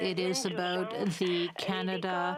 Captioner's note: speaking French